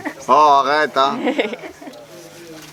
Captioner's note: laugh